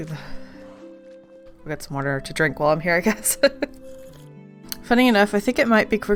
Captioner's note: laughs